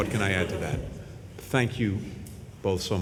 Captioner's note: laughter